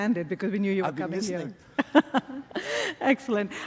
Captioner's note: laughs